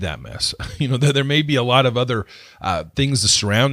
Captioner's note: laughs